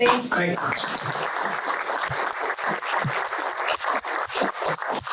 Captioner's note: audience applauds